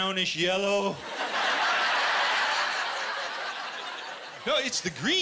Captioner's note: laughter